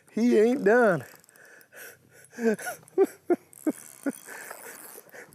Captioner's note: laughing